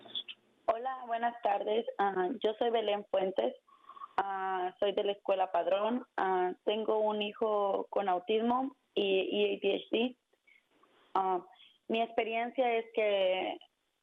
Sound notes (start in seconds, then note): 1.6 speaking spanish